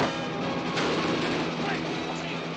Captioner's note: thud